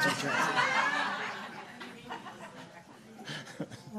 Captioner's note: audience laughing